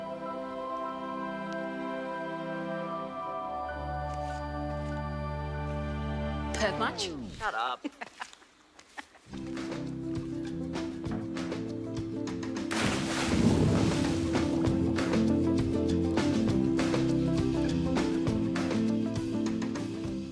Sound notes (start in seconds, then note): 12.6 splash; 15.7 upbeat music plays